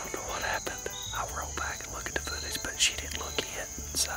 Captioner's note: sighs